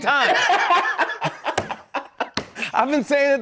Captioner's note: laughter